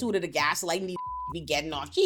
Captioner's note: beep